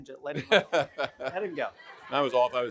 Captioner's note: laughing; everyone laughing